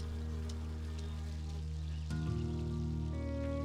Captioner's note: clock ticks; flies buzz